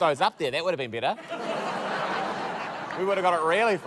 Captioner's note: laughter